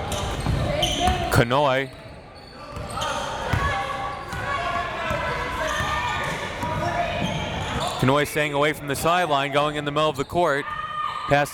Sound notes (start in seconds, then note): 3.6 crowd members shouting